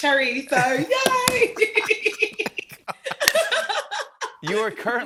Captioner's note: both laugh